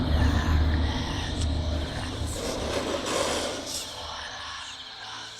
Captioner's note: demonic Chanting Continues